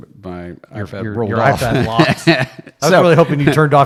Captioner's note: laughter drown conversation